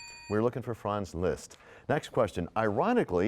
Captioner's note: bell rings, time expires